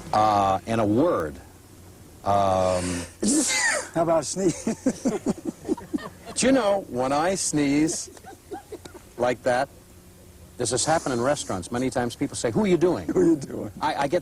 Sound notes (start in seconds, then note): 3.2 sneezes; 4.4 laughter